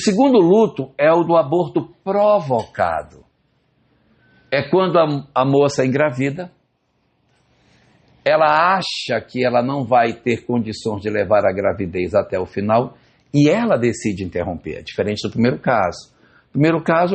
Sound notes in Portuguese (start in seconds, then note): none